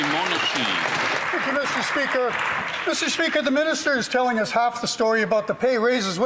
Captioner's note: applause